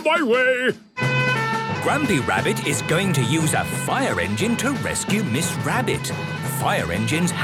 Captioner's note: sirens